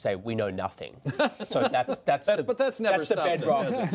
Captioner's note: laughter